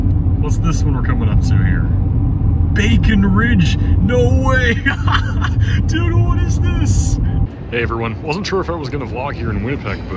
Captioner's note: laughs